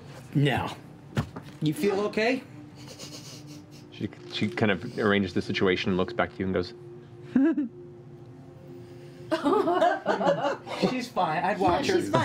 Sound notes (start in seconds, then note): 7.3 giggles